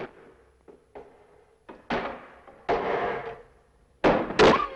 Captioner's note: board banging